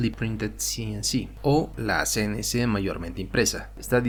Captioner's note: spanish